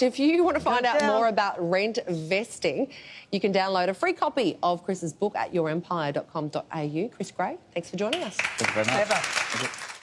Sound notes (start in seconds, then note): 8.3 audience applause